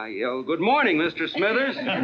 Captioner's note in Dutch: lachend